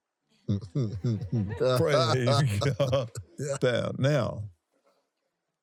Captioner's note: laughs